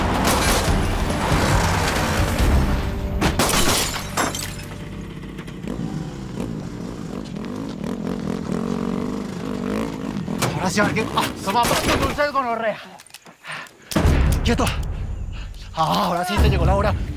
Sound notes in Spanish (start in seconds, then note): 14.0 Disparo